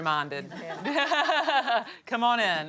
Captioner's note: Vivian laughs